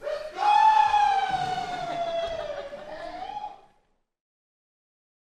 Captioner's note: laughter